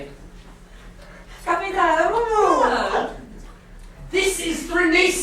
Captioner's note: speaking grammelot